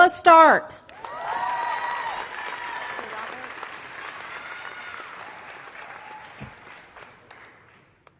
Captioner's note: applause